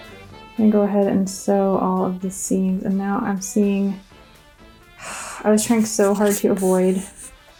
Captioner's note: sigh